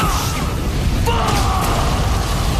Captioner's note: explosion